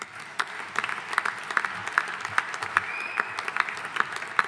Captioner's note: audience applauding